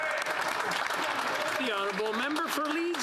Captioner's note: speaking French